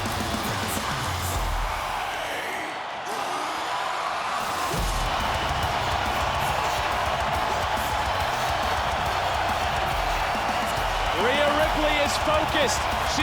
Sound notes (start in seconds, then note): 5.1 crowd cheering